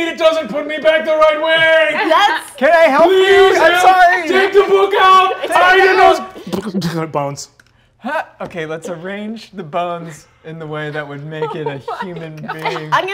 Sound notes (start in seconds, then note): 6.9 imitates bones clicking